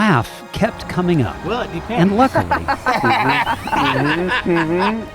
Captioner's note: laughing